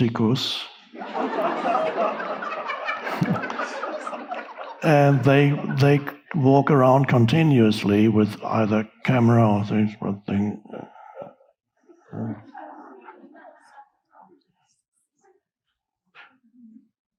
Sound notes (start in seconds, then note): 0.8 audience laughing; 3.2 Eckhart chuckling; 10.6 grunting; 11.9 audience chuckling